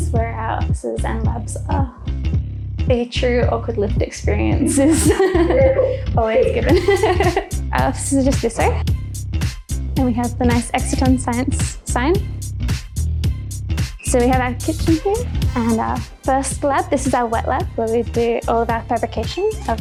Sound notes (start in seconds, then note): 4.6 laughs